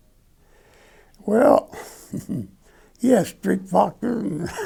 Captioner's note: laughing